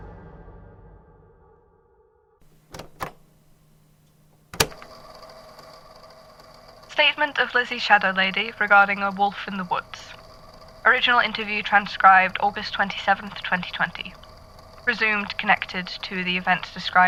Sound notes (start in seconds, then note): 5.8 click